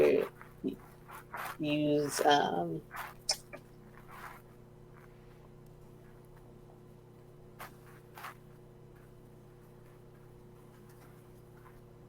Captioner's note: silence